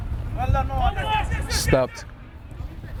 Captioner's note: players shouting